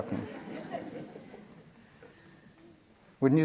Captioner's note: laughter